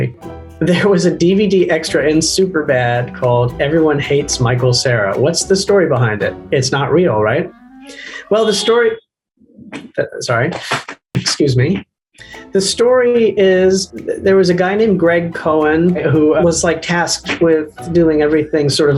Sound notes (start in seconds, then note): 0.2 piano music; 8.0 car horn beeping; 11.8 dance music